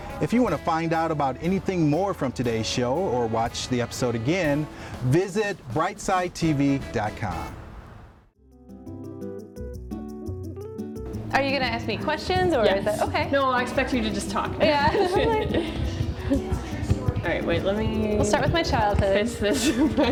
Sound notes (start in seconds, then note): 14.5 laughs